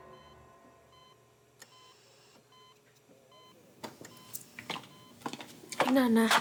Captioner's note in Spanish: sonido de los monitores